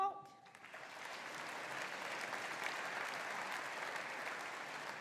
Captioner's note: audience applauding